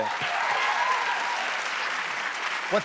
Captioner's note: cheers and applause